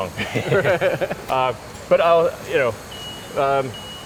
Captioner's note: laughs